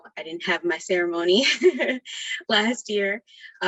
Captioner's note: laughs